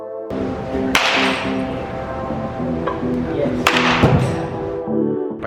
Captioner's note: crack of ball hitting bat